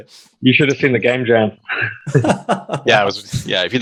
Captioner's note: laughing